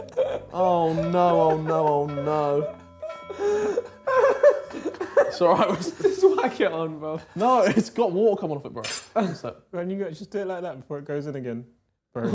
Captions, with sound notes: Oh no, oh no, oh no. (laughing) - Just wack it on, bruv. - No, it's got water coming off it, bro. - Just do it like that before it goes in again.